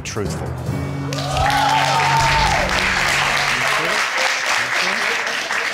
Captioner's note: audience cheering and applauding